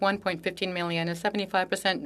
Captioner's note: speaking French